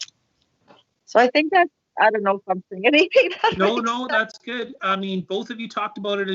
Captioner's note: laughs